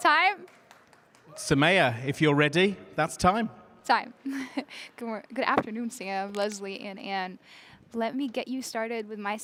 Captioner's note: cheers and applause